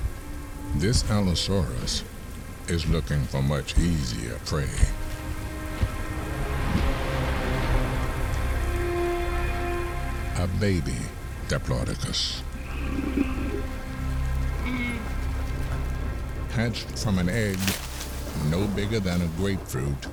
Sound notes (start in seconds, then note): 14.4 mewling